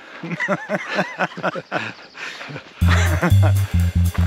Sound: both laughing

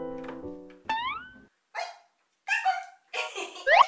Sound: door open

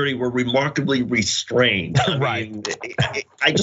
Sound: laugh

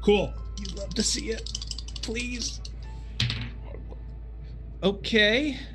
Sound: dice rattling

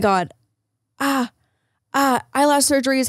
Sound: moaning in pain

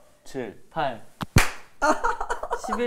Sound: clap

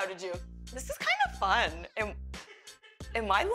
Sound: laughs

